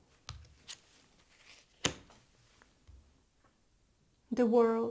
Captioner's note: card flipping